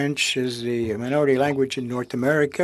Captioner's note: speaking French